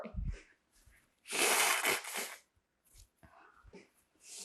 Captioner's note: pauses 11 seconds; wiping nose